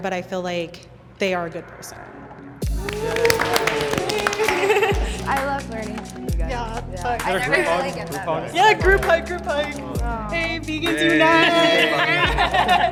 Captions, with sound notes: but I feel like they are a good person. (all clap and cheer) - I love learning. Yeah, I really get that. - Group hug. - Yeah, group hug, group hug. Yay, vegans unite.